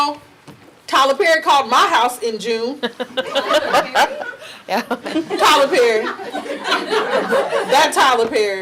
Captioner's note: audience laughing